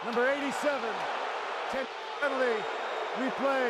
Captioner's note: crowd clamoring